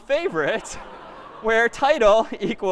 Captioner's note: laughter